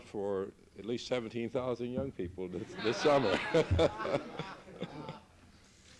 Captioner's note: laughter